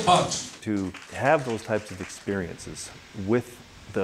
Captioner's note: voiceover